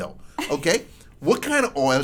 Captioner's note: laughs